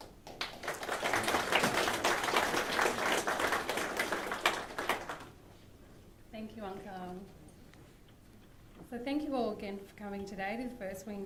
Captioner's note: applause